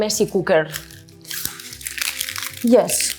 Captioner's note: onion skins crunch